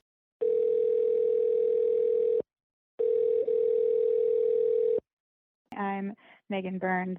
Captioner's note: phone Dial Tone